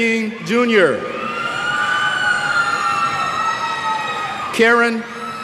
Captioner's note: cheers